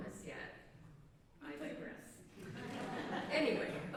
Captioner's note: laughter